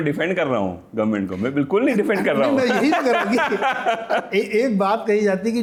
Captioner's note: laughter